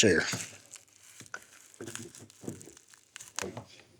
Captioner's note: footsteps